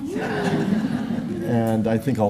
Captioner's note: laughter